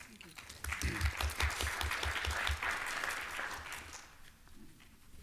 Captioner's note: applause